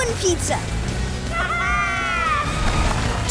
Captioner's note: squeaking